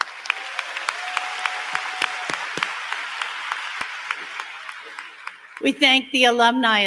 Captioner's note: applause